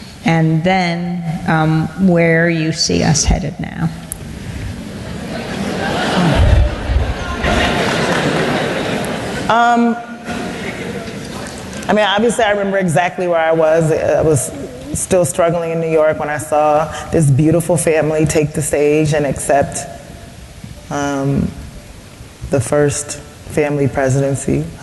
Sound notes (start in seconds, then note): 5.0 laughter